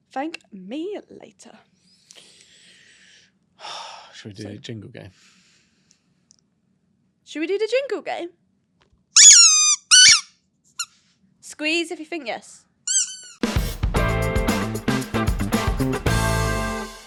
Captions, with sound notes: Thank me later. - Should we do the jingle game? - Should we do the jingle game? (toy squeaks) Squeeze if you think yes. (ball squeaks) (upbeat music)